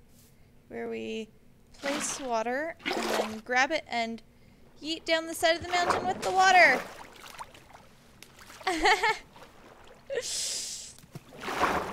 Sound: laughs

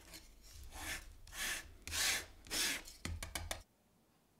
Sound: spatula scratching

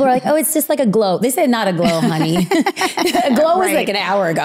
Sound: laughing

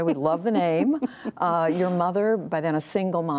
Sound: laughter

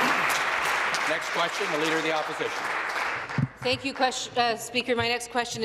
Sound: applause

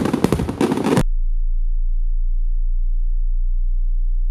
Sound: low humming

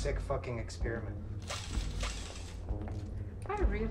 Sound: drill whirs

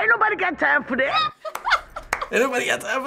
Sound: laughing

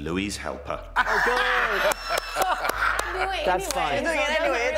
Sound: laughing

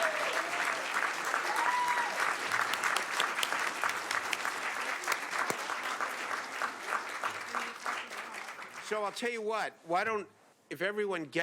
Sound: applause

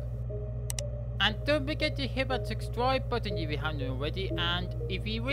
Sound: click sound

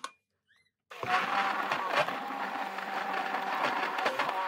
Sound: blender whirring

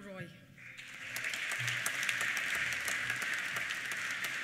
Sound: applause

